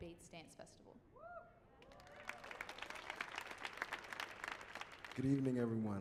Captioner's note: audience clapping; audience cheering